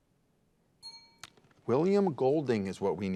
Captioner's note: bell dings